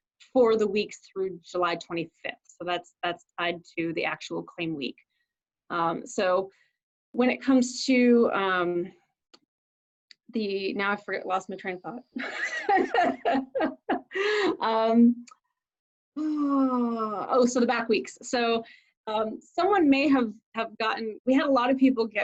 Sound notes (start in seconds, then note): 12.2 laughs; 14.1 sighs